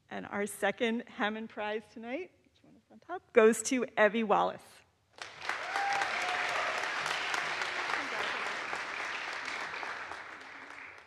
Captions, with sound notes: And our second Hammond Prize tonight goes to Evie Wallace. (audience applauds) (audience cheers)